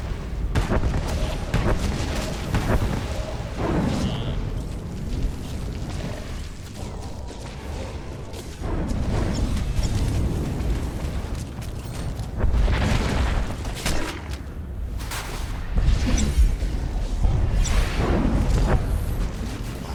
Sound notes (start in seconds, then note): 6.6 explosion